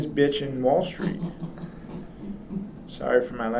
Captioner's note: laughs